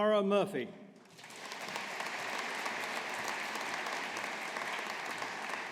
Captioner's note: audience applauding